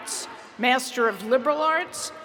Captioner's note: none